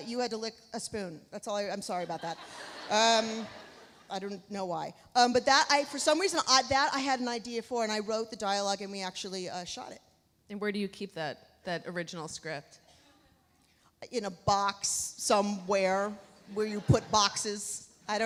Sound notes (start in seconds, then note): 2.1 audience laughs